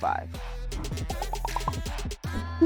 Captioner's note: popping; upbeat music